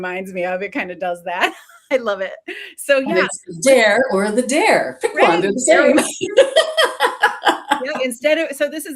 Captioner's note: laughs